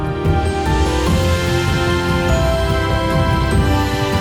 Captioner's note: applause; เสียงปรบมือ